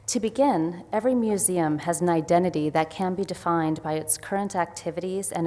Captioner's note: none